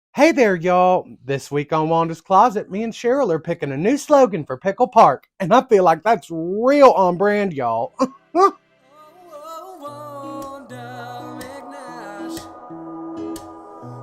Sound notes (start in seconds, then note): 8.3 excited chuckle